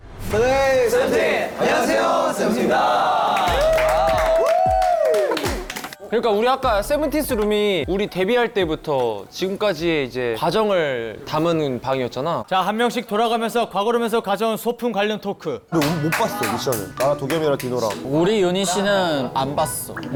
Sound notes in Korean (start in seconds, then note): 3.3 박수 갈채; 4.7 일동 환호